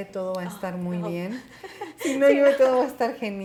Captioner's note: chuckles